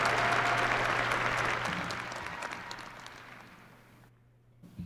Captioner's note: applause